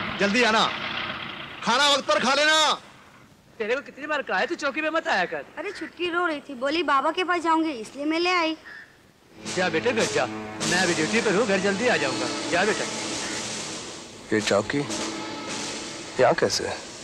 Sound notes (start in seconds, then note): none